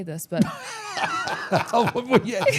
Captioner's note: men laughing